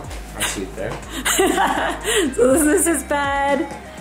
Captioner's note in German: lacht